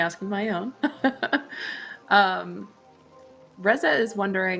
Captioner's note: laughs